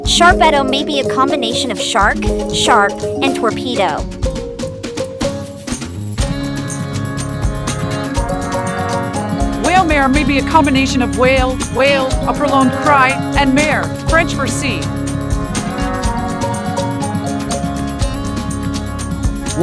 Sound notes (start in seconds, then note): 12.2 a prolonged cry